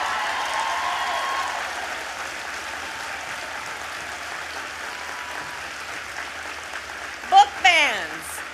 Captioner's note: applause